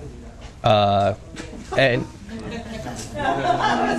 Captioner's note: laughter